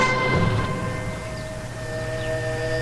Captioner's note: birds chirping; gentle upbeat music; dramatic music